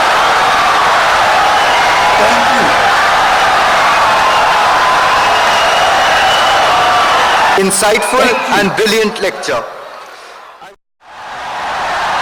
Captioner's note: wild applause and cheering for 17 seconds